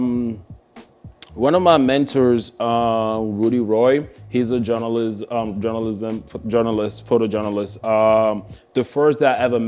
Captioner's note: stumbles over words